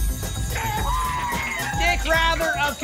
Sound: applause and cheering

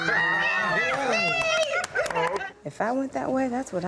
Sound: group laughs and claps

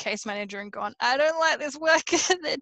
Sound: laughs

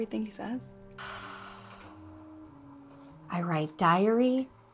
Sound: Maha sighs

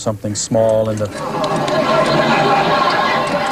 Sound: laughter

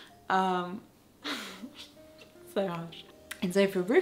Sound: laughs

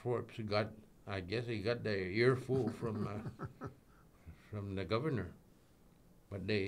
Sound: laughing

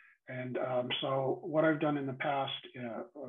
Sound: none

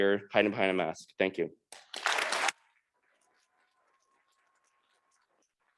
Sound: audience clapping

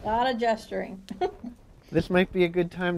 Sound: chuckle

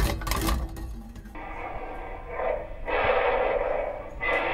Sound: sound of tiger roaring

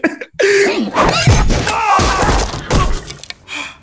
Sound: laughs; shouts; gasps

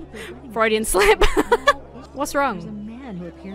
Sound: laughs

